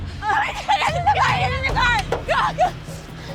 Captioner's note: indistinct screaming